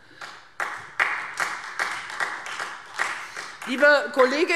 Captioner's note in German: Beifall Freie Demokraten